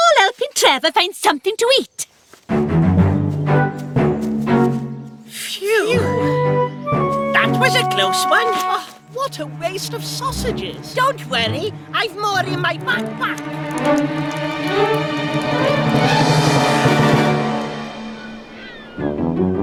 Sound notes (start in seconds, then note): 14.4 flames Crackling; 14.4 ominous Music